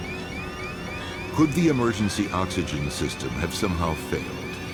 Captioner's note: voiceover